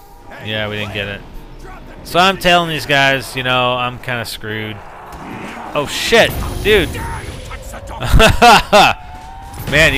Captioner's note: laughs